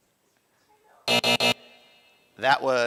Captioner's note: buzzer